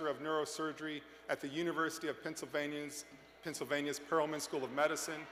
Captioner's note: cheers